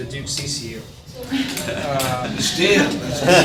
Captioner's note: people laughing